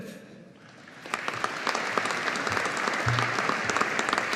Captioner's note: audience applauding